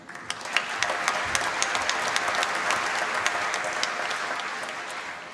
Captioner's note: applause